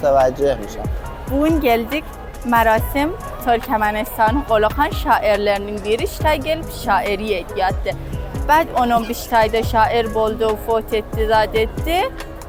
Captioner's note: turkmen language